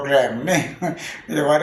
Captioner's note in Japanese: 笑い声